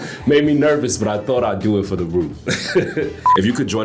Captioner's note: laughs